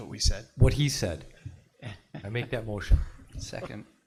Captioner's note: pat